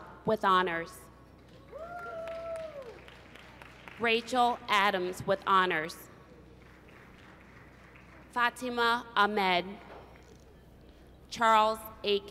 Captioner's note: applause